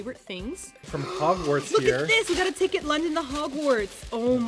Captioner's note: gasping